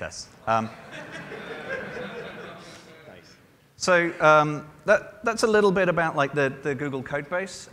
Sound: laughter

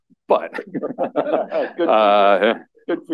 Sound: laughter

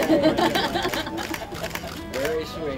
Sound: laughter

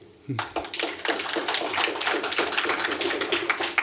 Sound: applause

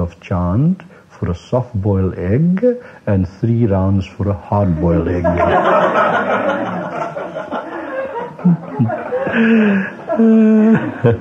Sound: laughter

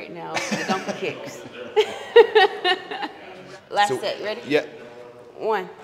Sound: laugh

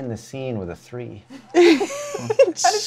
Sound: laughter

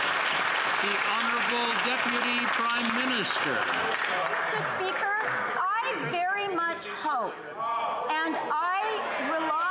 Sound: some Applause

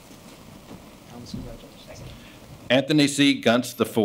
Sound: speaking faintly

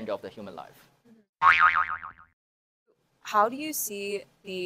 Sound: image boings

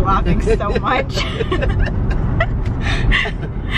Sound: laughing

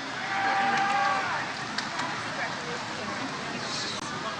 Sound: audience cheers

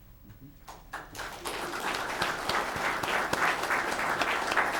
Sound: audience clapping

